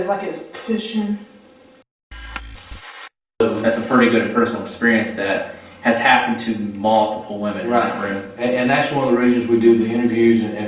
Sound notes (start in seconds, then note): 2.4 static fizzing